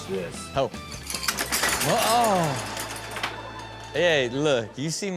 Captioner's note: pens cluttering